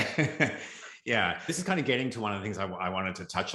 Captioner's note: laughs